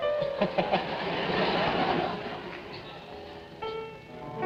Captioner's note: audience laughing; piano concerto playing